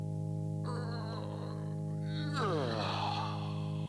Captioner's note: whines